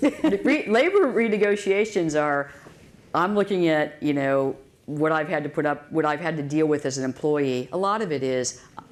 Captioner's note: laughter